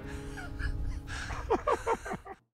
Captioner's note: laughter